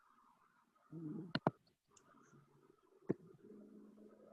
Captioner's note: ricochet sound